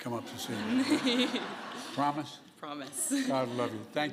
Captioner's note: laughter